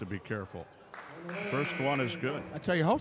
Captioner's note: buzzer buzzes